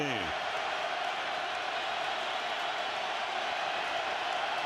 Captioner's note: cheers